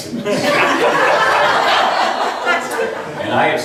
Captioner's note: laughs